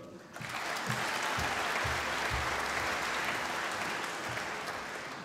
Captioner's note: applause